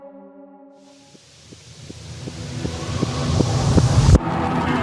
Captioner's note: rising hiss